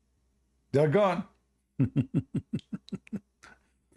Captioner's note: Ketawa